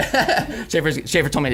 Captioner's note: laughs